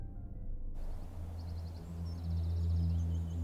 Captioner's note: birds chirping; tense music